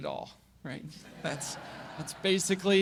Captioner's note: audience laugh